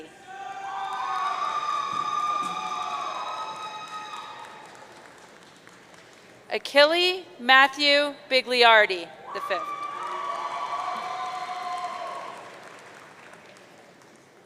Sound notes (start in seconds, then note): 0.2 audience cheering; 9.3 audience cheering